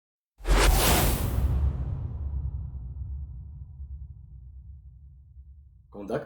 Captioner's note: whooshing sound